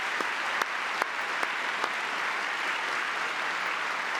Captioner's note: applause; cheering